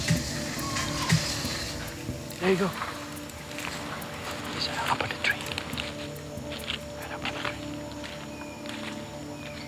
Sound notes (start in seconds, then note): 4.3 whispers